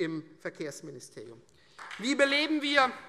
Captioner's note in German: Beifall Freie Demokraten und vereinzelt SPD